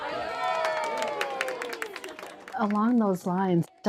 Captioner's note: cheering